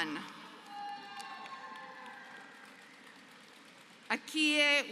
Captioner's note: applause